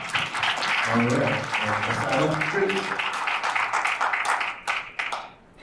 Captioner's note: attendees applauds; faintly speaking